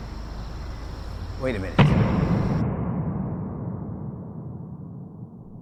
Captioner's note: door banging